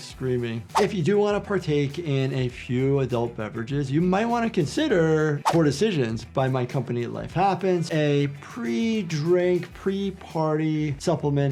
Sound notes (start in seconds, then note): none